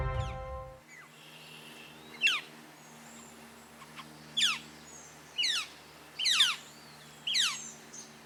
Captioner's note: Northern Flickers' rolling, piercing chirps